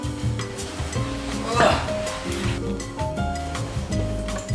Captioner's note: melodious music; grunts